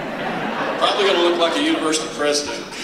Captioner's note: laughter